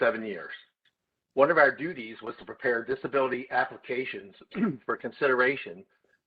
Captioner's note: cough